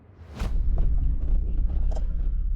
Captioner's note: whoosh